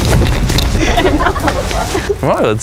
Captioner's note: laughing